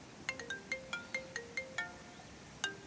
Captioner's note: phone rings